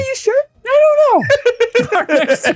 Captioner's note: both laughing